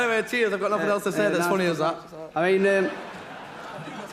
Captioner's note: laughs